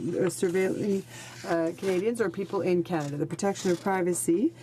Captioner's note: speaking in french